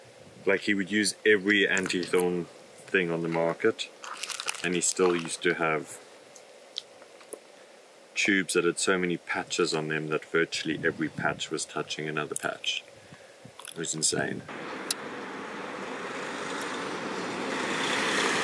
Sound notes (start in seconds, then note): none